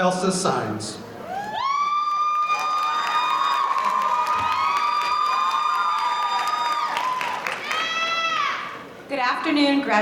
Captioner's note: applause